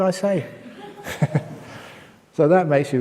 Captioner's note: chuckle